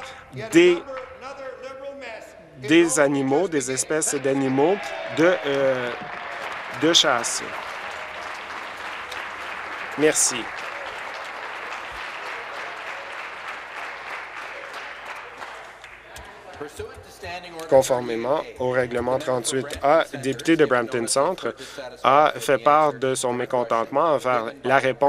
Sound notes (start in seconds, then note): 7.8 applause